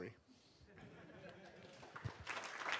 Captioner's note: laughter; applause